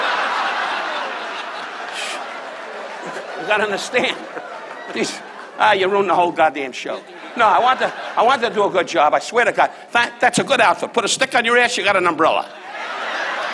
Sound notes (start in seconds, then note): 0.0 audience laughs; 5.2 laughs